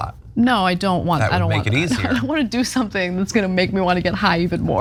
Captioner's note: laugh